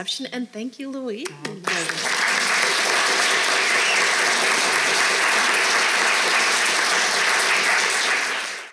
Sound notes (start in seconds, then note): 1.3 audience clapping